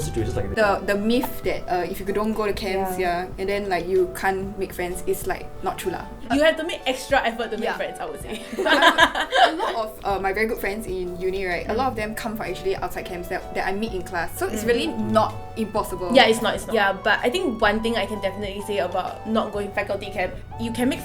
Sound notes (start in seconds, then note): 8.3 laughter